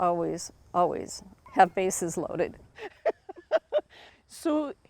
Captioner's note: laughs